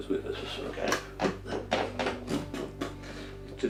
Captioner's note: gorilla noises